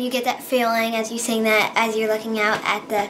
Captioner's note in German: Sie spricht auf Englisch fertig